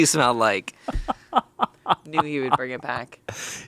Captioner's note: laughs